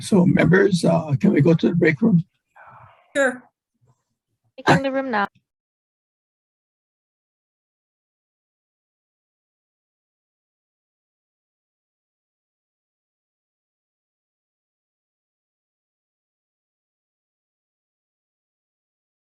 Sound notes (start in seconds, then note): 4.8 voice muffling